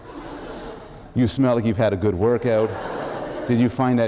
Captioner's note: laughter